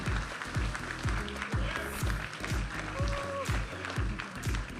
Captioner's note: audience applauding and cheering; vibrant music